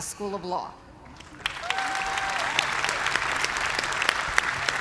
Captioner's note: cheers and applause